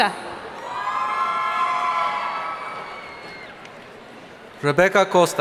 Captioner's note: audience cheering